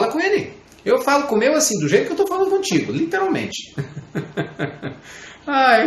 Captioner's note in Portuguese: risadas